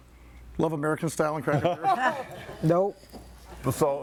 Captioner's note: all laughing